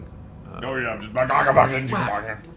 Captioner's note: angry noises